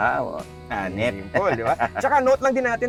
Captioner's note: laughs